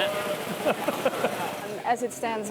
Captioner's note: laughs